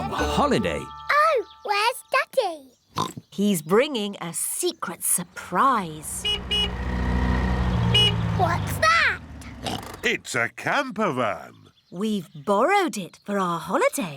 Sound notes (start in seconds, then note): 2.9 oinks; 6.0 horn honks; 9.6 oinks